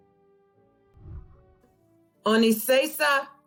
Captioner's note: whooshing